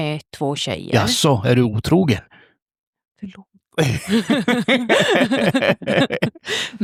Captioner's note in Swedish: skratt